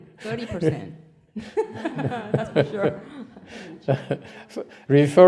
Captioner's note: laughter; laughter